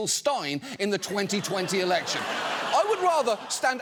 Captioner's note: audience laughing